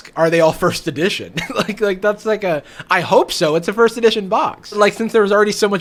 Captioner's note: laughs